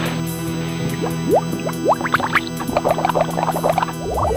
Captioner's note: blood gurgles